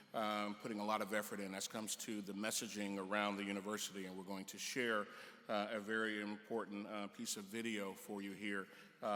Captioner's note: none